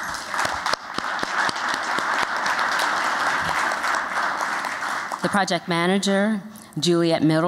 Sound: applause

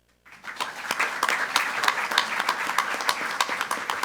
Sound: group applauding

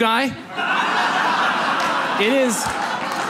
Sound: audience laughs

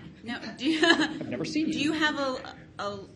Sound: laughing loudly

